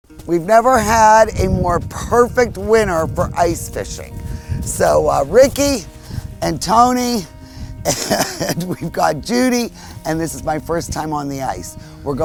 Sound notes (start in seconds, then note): 0.0 upbeat music; 7.9 laughs